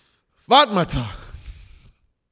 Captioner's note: speaking Krio